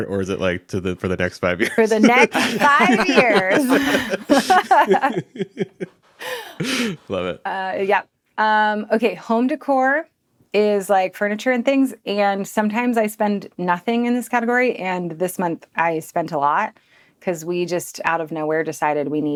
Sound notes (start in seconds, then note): 3.8 group laughing